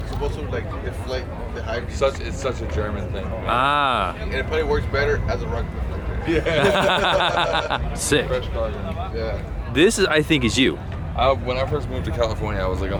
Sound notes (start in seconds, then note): 6.3 laughing; 8.9 background chatter